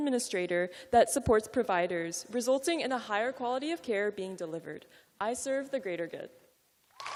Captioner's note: cheers and applause